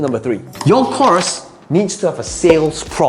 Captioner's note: paper rustling; bubble popping